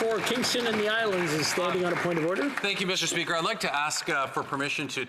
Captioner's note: some Applause